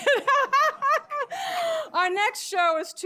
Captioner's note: laughter; laughs